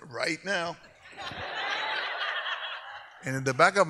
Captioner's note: audience laughs